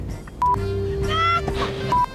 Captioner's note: laughs